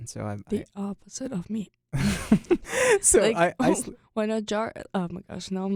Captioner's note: both laugh